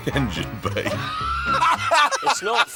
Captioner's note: laughing